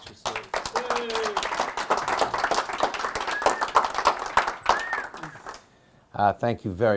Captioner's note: members of the audience clapping and cheering